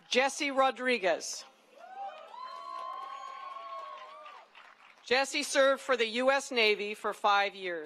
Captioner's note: cheering and applause